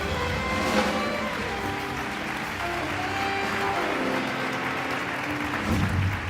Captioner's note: audience cheering and applauding